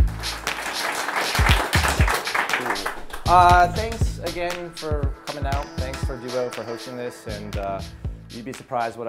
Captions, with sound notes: (audience applauding) - Thanks again for coming out. Thanks for Duo for hosting this, and you'd be surprised